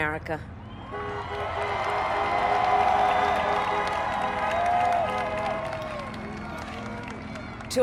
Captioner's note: applaud